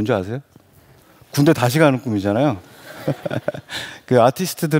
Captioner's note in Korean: 웃음